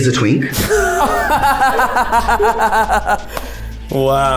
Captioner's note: everyone laughing